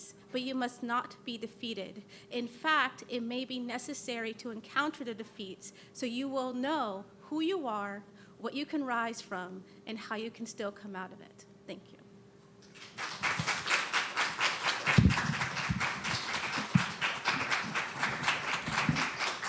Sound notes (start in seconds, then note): 12.6 applause